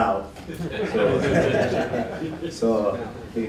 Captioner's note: laughter